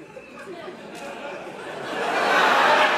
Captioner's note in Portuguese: risos